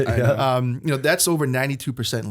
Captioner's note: laughter